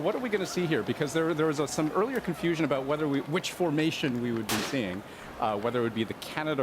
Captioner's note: gun salute